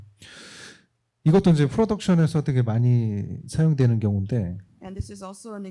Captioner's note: speaking korean